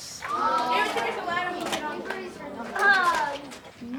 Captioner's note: kids mumbling